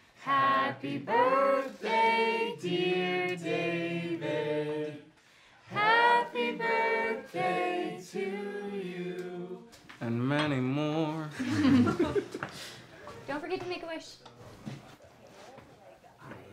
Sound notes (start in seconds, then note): 11.3 people laughing